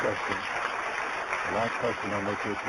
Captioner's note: applause